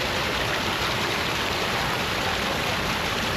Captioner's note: water sounds